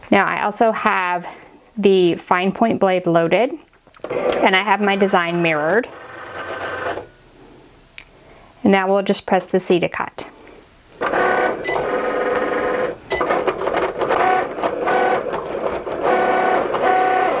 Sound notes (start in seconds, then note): 4.0 machine grinding; 11.0 machine grinding